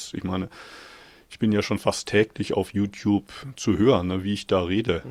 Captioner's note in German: none